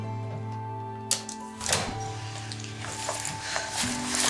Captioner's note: Joy sighs; handle thuds